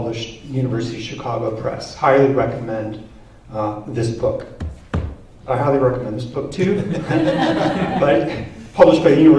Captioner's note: laughter